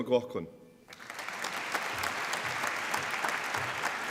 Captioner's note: applause